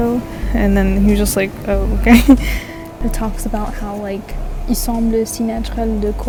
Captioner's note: french